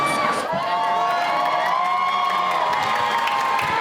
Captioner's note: cheering